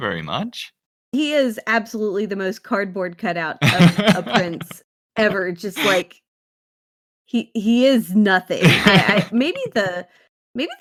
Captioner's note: laughs